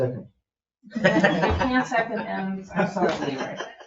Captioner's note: people laugh